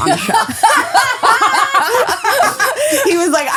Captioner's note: laughing